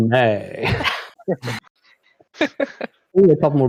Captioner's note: laughter